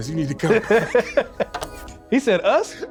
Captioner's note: laughing